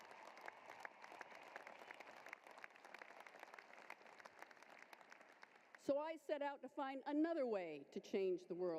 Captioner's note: applause